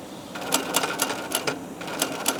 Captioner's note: sewing machine rattling